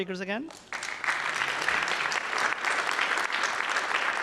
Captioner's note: applause